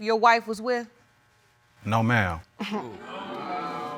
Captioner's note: scoffs